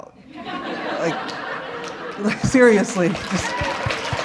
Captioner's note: laughter